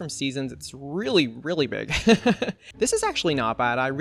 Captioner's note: laughs